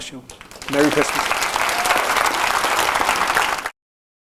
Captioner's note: applause